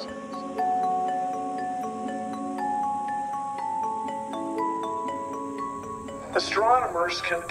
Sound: insects buzzing

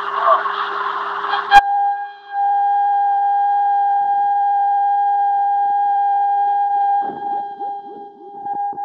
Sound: 800 Hz TEST TONE signal

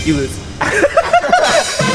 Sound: laughing

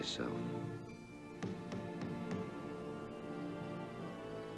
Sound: knock on door

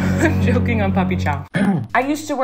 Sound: coughs; clears throat

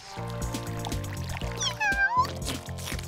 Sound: meowing

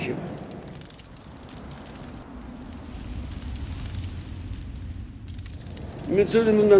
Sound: sound of fire crackling in the background

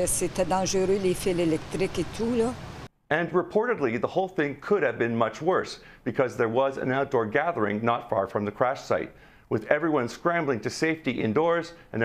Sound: speaking French

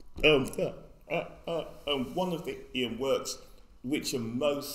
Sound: stammers

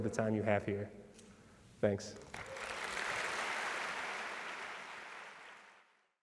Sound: applause

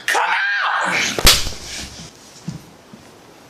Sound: slap

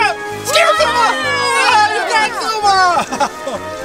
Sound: screams

